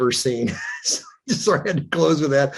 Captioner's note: chuckling